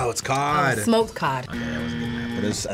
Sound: buzzer buzzing

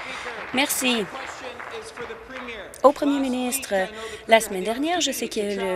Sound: applause

